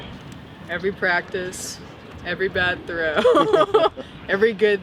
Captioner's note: chuckles